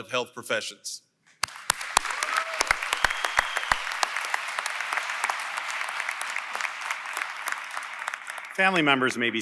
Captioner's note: applause & Cheering